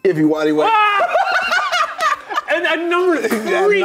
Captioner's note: Shane and Ryan laughing